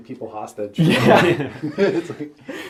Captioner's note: all laugh